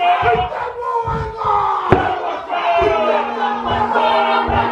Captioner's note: horns bellowing